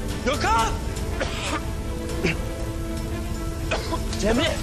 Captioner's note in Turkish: Öksürüyor